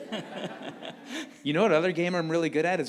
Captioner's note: all laughing